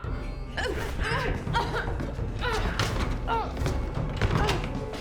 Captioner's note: Claire whimpering